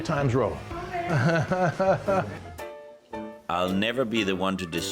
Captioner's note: chuckling